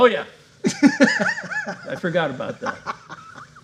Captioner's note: laughing